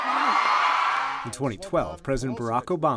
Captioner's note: cheering and applause